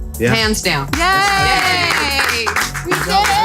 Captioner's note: cheering